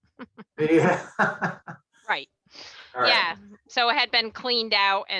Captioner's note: chuckles softly